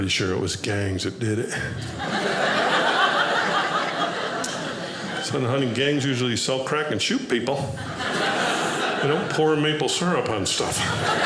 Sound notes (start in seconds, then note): 1.8 audience laughing; 10.4 audience laughing